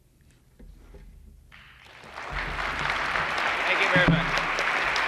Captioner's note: applause